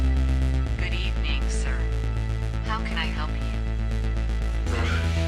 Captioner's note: drone